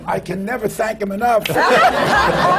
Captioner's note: laughter